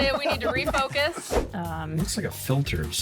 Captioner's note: wind whooshes